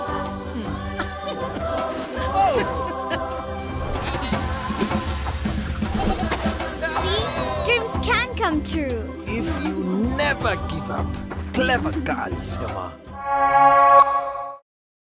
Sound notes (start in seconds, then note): 4.4 laughing